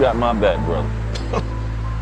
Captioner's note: chuckles